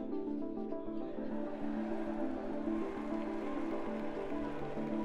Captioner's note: audience applauds